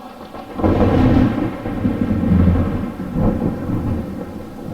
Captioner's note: thunder clapping